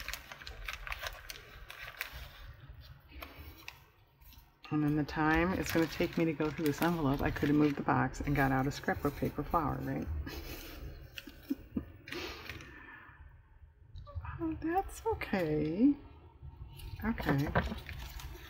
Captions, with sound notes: in the time it's going to take me to go through this envelope, i could have moved the box and got out a scrapbook paper flower, right? (laughs) oh that's okay, okay